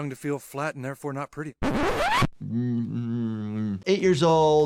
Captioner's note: record scratches